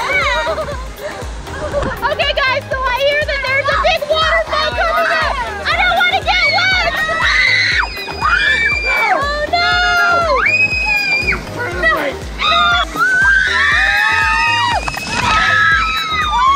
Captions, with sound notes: Okay guys, so I hear that there's a big waterfall coming up. I don't wanna get wet. (screaming) Oh no! (everyone yelling)